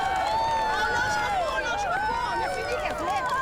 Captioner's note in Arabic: امرأة تهتف بالفرنسية